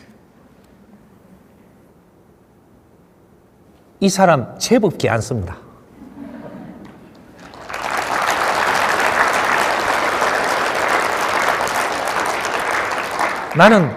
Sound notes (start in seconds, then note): 7.0 audience applauds